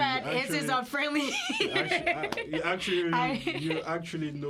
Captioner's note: laughter